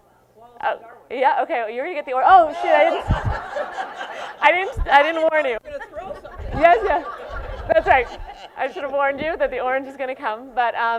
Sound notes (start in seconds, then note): 2.5 laughter